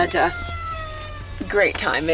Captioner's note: toy squealing